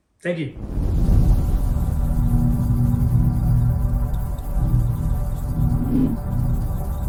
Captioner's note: wind whooshing; electronics buzzing